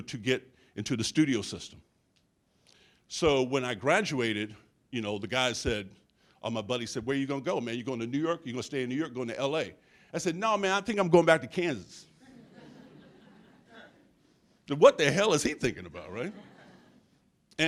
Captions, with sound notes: to get into the studio system. So when I graduated, the guy said, my buddy said, "Where are you gonna go, man? "You're going to New York, you gonna stay in New York, "going to LA?" I said, "Nah, man, I think I'm going back to Kansas." (audience chuckles) What the hell is he thinking about, right?